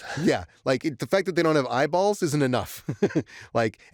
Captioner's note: laughs